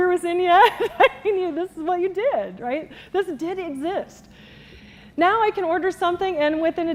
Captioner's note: laughs